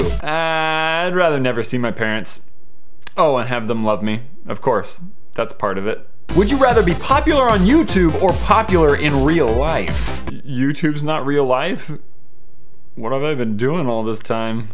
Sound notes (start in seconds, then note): 2.2 sarcasticly